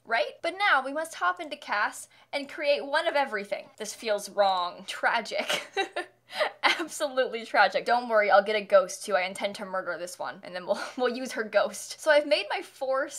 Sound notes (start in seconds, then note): 5.5 nervous laughter